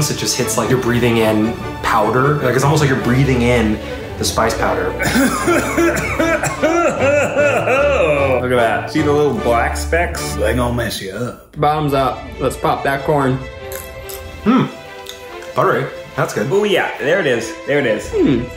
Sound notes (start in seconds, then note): 5.0 coughing; 13.7 crunching